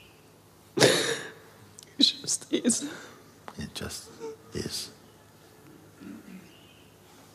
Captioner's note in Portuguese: chorando